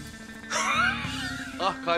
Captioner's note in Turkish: Gülüyorlar